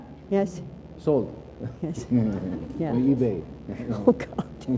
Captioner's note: laughs